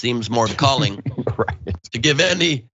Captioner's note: laugh